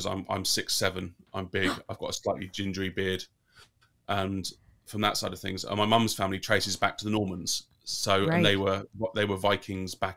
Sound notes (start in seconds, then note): 1.6 gasps